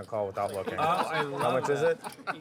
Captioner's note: laughter